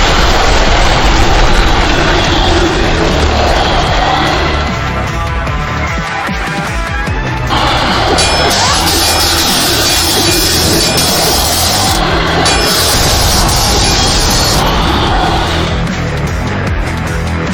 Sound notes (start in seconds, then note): 0.0 explosion booming; 7.5 electricity crackling; 8.1 swords clanging